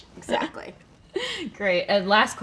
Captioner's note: laughing